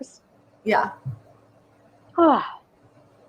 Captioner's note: sighs